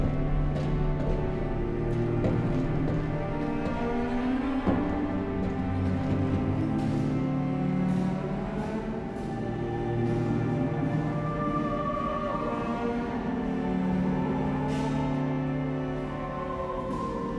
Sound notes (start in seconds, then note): none